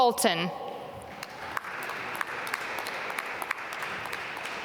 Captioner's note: applause